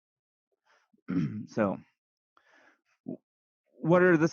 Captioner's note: clears throat